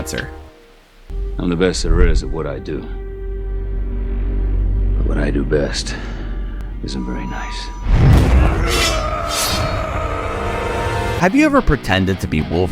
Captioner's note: growls!